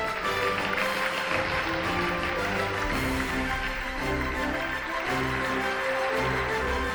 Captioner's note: applause, Music